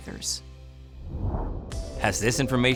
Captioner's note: graphic whooshing